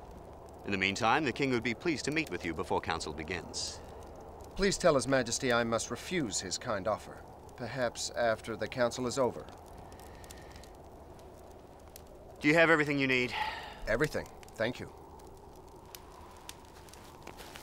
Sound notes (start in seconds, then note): none